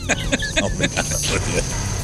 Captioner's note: laughing